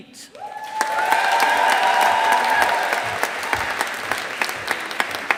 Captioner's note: audience applauding